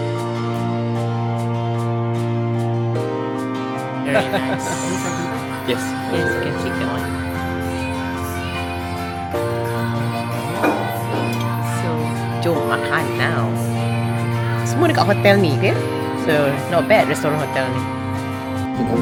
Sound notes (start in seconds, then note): 4.6 laugh